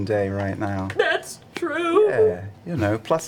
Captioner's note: tearfully